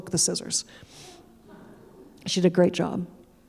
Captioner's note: audience laughing